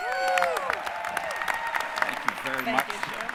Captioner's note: applause